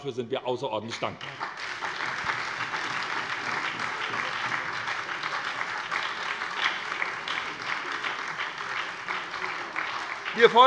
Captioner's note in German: Beifall bei der SPD